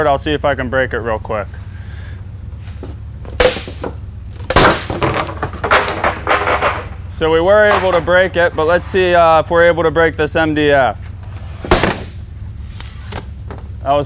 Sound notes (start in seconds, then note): 4.3 wood cracking and banging; 11.6 wood cracking